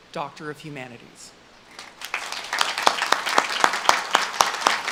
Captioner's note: audience claps